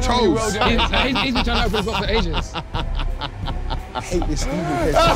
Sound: dramatic music; laughing

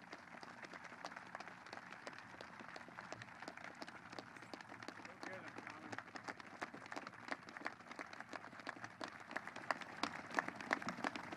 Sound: applause

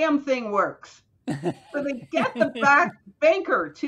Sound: chuckles

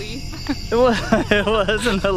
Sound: laughing; laughs

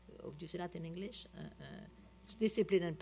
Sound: french

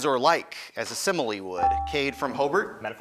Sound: ding

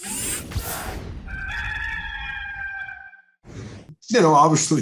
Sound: rooster crows

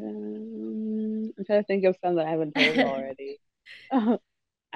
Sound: laughs

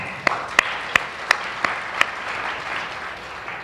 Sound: applause

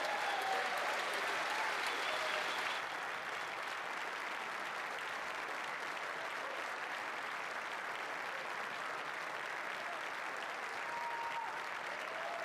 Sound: applause; cheering

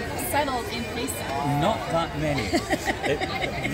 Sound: laughs

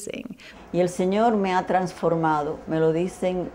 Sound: in Spanish

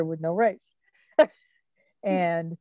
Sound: laughs

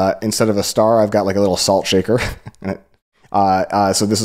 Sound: laughs

